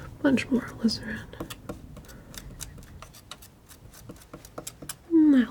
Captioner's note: scratching